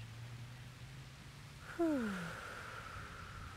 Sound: exhales

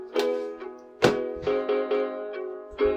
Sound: book close; book smacks on desk

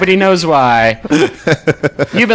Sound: laughing

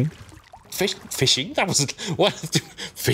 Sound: flustered rambling

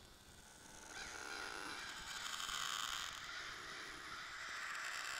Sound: seagulls

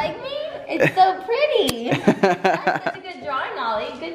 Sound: laughs

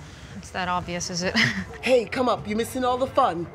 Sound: chuckles

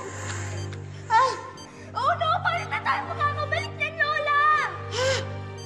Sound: gasps

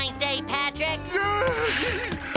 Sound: giggling

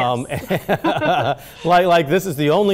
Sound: both laughing

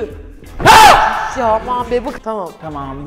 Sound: screams

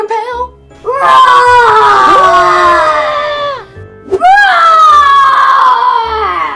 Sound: screams

